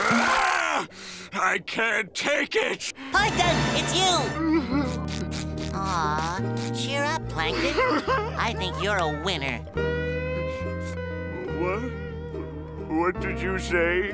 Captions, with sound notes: I can't take it. Plankton, it's you! [crying] Ah, cheer up, Plankton. I think you're a winner. What? What did you say?